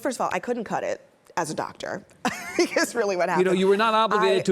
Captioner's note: laughs